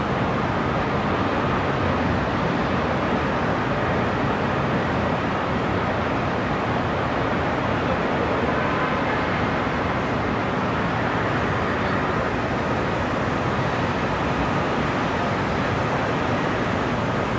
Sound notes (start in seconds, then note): 4.1 sound of distant cars and city noises